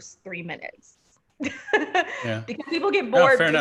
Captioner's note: laughing